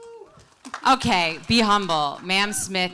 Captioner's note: audience cheers and applauds